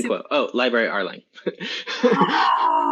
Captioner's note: laughs